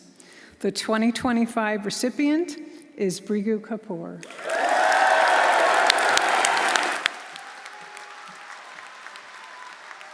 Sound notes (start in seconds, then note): 4.2 audience applauding; 4.2 audience cheering